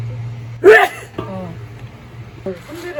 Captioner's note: sneezing